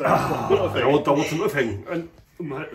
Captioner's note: laughing